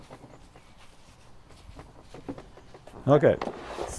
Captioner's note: sponge dabbing